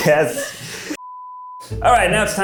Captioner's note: beep